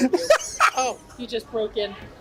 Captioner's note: laughs